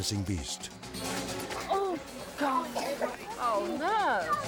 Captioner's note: kid coughs; intense music